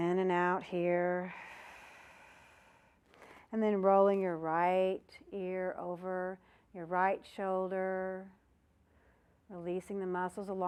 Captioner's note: breath sound